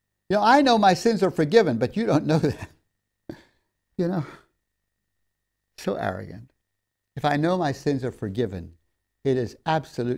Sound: laughs

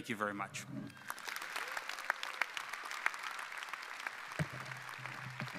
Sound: audience applauding

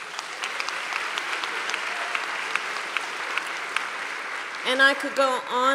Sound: applause

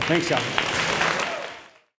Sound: audience applauds

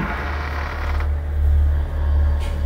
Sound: door creaks open loudly

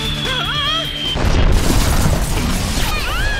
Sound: rumble; crash; thud

